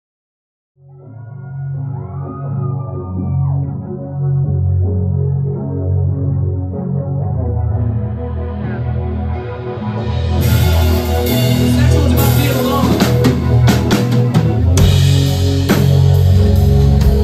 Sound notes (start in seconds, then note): 0.9 crowd Cheering; 1.5 intro Music Playing